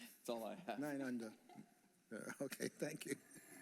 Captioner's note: laughter